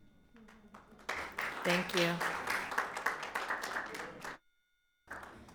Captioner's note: audience applauds